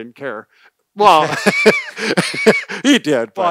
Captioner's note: laughing